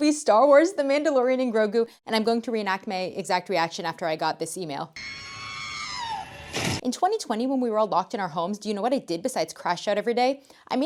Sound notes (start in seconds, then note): 5.0 r2d2 scream